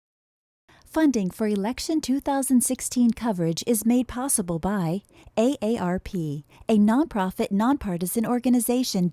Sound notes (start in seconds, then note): 1.5 voiceover